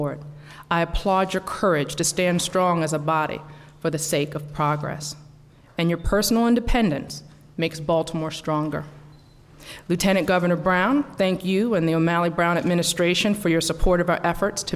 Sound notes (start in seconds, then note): none